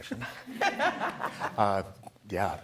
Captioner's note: laughing